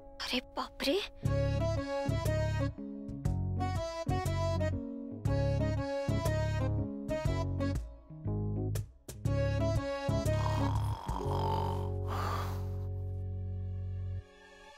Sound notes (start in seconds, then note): 10.2 snoring